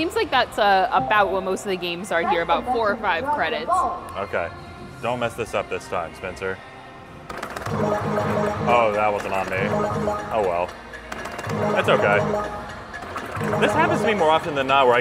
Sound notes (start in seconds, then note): 7.3 balls beeping; 7.3 button clicking; 9.8 balls beeping; 9.8 button clicking; 11.1 timer ticking; 11.5 balls beeping; 11.5 button clicking; 13.7 balls beeping; 13.7 button thudding